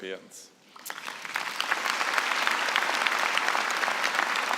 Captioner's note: applause